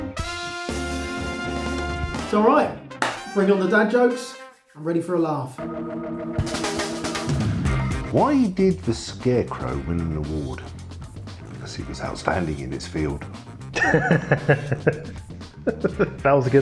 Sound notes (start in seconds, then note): 3.0 claps; 13.7 laughing